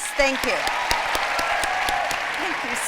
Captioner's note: applause